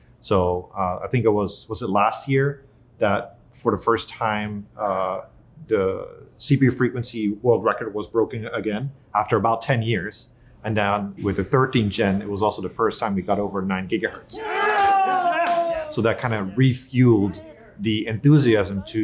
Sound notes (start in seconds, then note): 14.2 team cheering